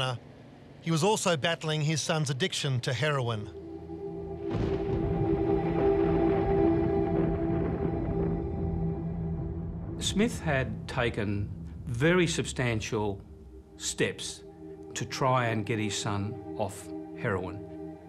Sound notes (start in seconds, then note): 4.3 thunder cracks